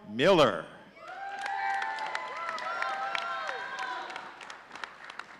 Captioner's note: audience cheering